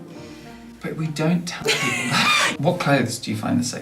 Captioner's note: laughter